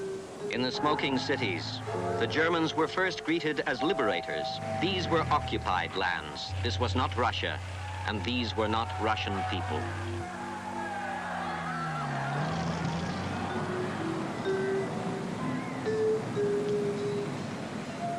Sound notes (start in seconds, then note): 10.4 crowd cheering